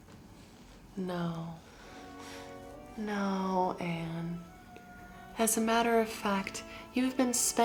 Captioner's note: Ginger's normal voice